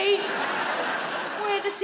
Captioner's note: audience laughing